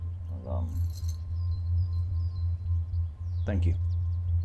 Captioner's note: keys jangling